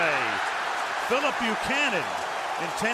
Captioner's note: cheering